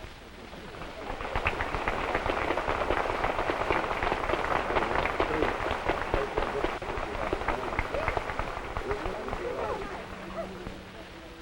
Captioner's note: applause